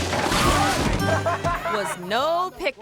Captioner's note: person laughs